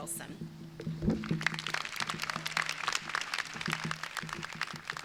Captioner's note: crowd applauding